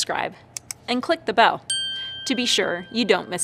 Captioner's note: bell dings